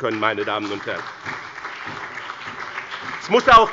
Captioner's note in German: Beifall bei dem BÜNDNIS 90/ DIE GRÜNEN und der CDU